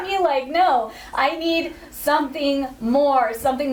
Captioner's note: none